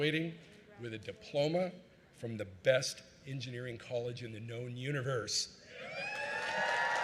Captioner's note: cheering